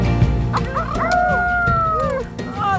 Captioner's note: cheering